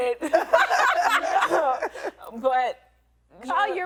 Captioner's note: women laughing